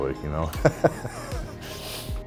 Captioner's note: laughter